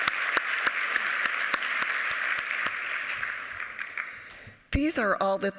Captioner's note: applause